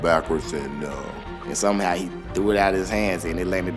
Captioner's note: voiceover